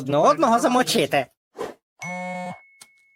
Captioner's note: phone chimes